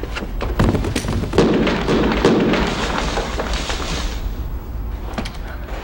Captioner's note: small explosion booms